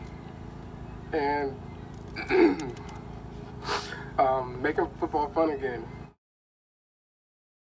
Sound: cough

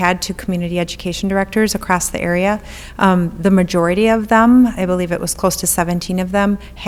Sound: none

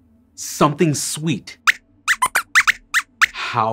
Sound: squeaks squeaks

